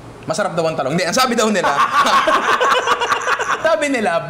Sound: laughter

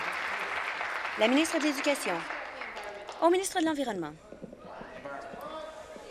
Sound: applause

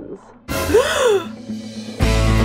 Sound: gasps

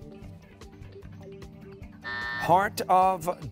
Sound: buzzer

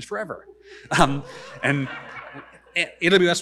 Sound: audience laughing

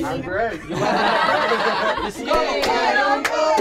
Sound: everyone laughs

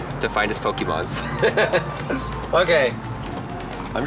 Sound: both laughing

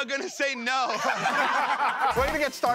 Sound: laughter

